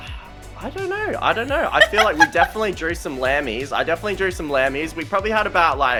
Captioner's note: laughter